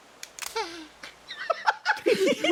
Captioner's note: whimper; laughs